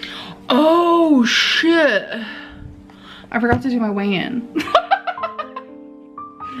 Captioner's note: laughing